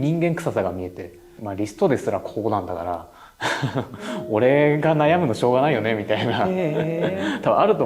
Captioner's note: laughs